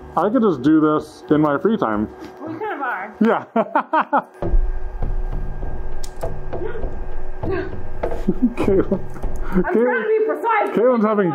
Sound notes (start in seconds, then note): 3.2 laughs; 4.4 drums beating; 4.4 gasps; 8.1 laughs